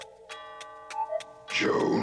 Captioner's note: clock ticking